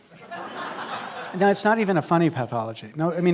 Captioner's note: laughter